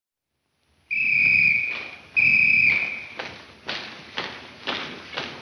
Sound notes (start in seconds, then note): 0.8 whistle blows